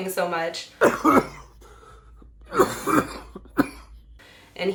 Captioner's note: coughing violently